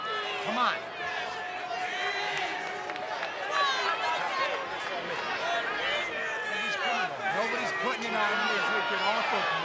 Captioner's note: applause